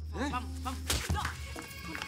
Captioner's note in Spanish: ruido de puñetazo